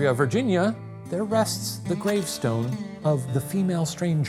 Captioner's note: projector clicking